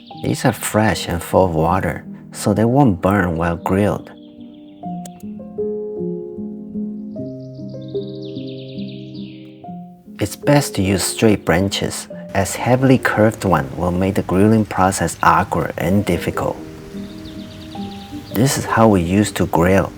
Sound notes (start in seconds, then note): 5.0 birds chirping